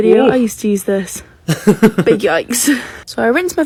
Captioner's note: laughs